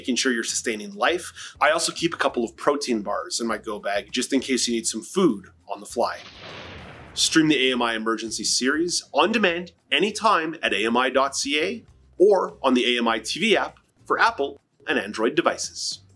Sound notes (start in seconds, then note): 6.1 lighning strike